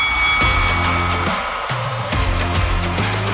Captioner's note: bell Dings